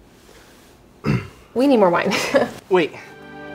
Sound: chuckles

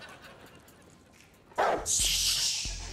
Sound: barking

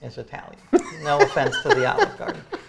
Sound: laughs

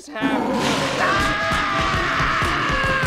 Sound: screaming

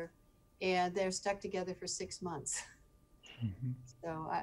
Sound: chuckling

